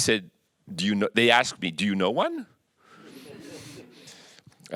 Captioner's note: audience chuckles